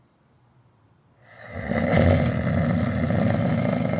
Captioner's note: snoring resumes